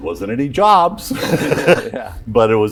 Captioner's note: laughter